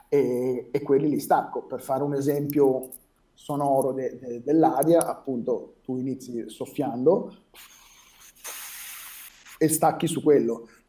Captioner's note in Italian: rumore di soffio; rumore di soffio e lingua